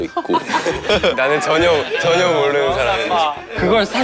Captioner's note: haha